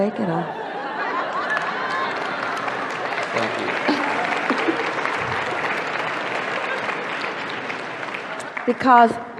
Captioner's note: the audience laughs and applauds